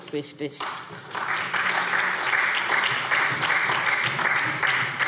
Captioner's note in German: Beifall SPD